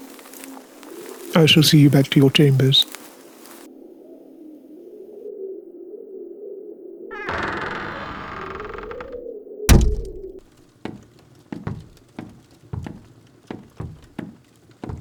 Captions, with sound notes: I shall see you back to your chambers. [The Castle door creaks open and closes] [Two sets of footsteps on the stone floor]